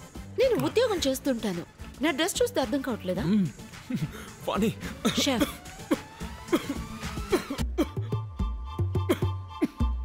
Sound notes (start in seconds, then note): 7.2 coughs